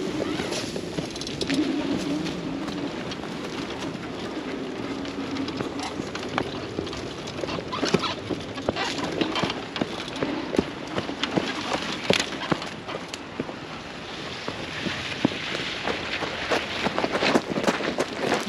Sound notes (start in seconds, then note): 3.1 laughing